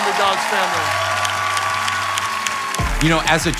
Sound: congregation clapping and cheering

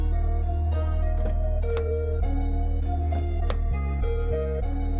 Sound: car doors open

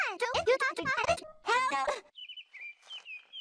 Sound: grunts

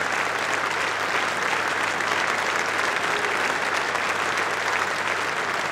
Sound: applause

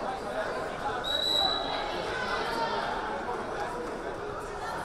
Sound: whistle blaring

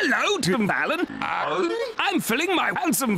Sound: tim allen grunt

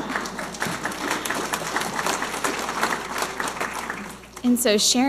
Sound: audience laughing and applauding

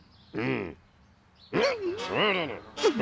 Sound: gasps; grunts; growling

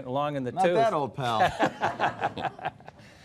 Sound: laughing

